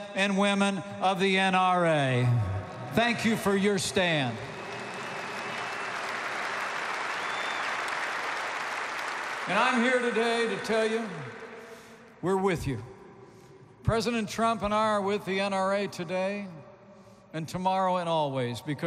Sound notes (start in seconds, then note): 3.7 applause